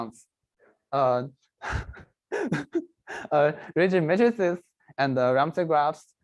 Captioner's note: laughs